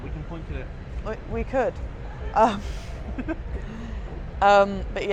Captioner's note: laughs